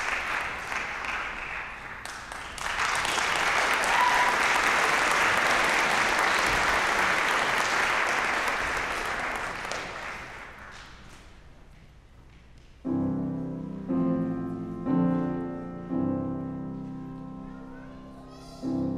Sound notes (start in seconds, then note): 3.4 applause, cheering; 7.5 applause